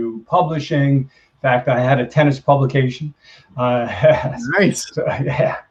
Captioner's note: laughs